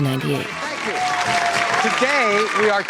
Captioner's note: applause fades in